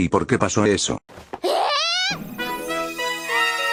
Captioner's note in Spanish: sonidos de Fujiwara Chika